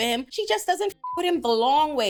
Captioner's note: beep